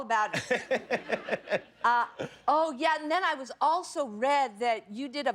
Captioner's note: laughter